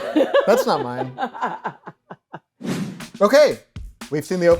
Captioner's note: laughing